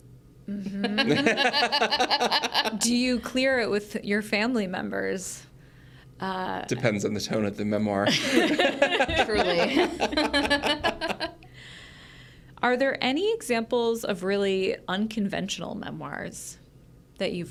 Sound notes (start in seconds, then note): 0.7 group laughs; 8.1 group laughs